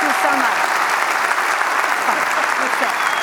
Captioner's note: applause continues